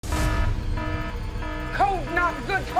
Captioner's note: alarm blaring